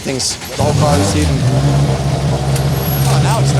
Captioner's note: car engine revs